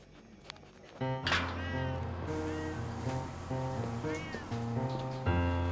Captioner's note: cat Meowing